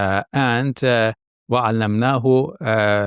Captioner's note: speaks in foreign language